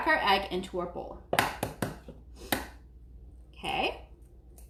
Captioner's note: egg cracking